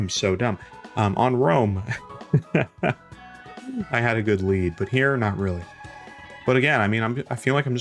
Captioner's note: chuckles